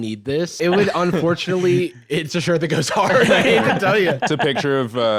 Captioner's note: laughs